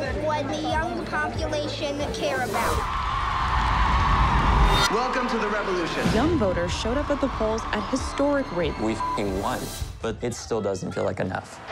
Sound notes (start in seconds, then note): 2.5 crowd roars